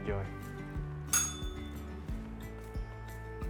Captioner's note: bell rings